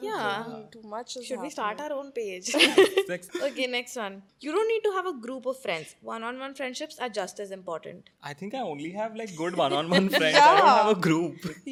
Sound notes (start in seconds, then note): 2.6 laughs; 9.7 laughing